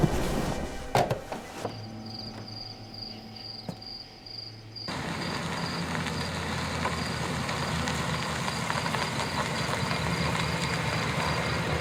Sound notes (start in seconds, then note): 0.0 thunder; 1.9 crickets